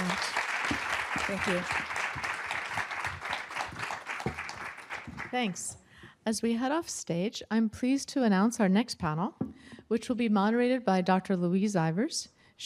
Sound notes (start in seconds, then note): 2.4 applause